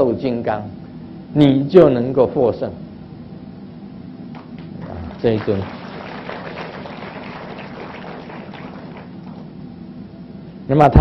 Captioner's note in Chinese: 眾鼓掌